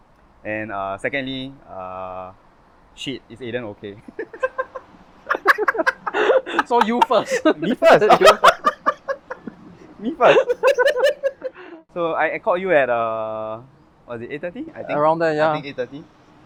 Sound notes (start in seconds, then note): 4.4 laughs; 5.2 both laughs; 8.6 laughs